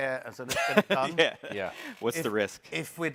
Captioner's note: chuckle